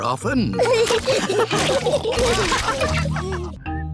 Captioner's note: all laughing